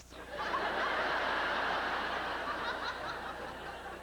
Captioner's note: howling laughter